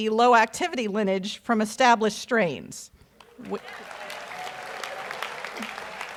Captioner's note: audience applauds